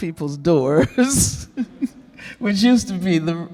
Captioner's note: Angela chuckling